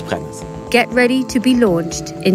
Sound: woman's Voice

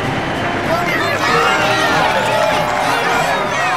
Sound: cheering

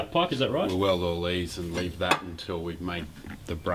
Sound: metallic clattering

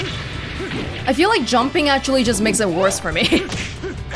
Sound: chuckles

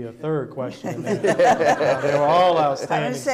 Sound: audience laughing

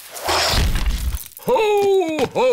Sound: thuds

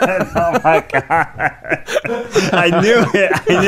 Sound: laughing

